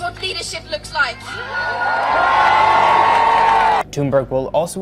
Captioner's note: crowd cheers